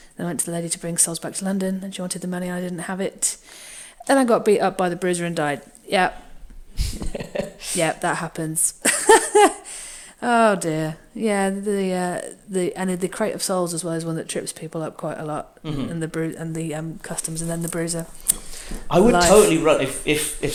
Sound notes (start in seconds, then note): 6.8 laughs; 8.8 laughs